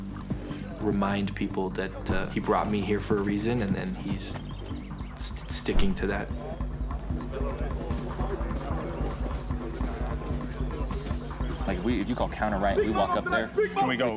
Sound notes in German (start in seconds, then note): 7.1 Gespannte Klänge, Stimmengewirr